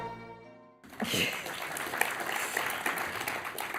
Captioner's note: applause